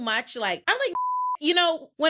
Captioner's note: beep